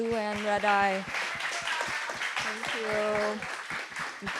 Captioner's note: audience applauding